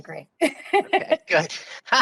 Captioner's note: laughing